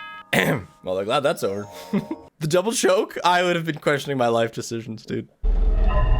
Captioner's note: clears throat